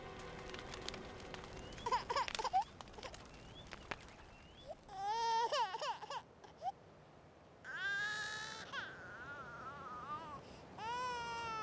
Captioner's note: a baby cries out